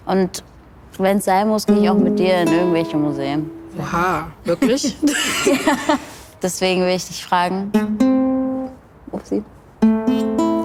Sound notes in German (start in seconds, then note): 3.8 lacht